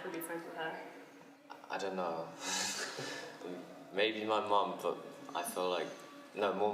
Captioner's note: laughs